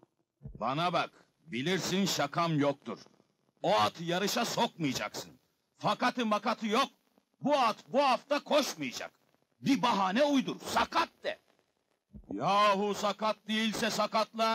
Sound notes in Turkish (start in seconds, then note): none